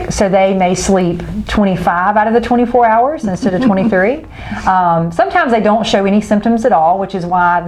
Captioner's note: laughing